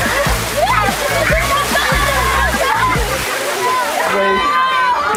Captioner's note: children screaming